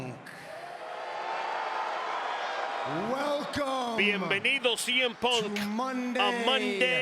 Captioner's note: applause